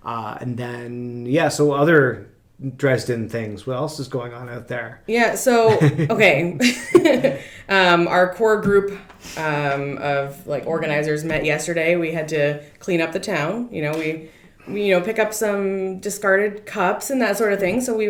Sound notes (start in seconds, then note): 5.6 laughs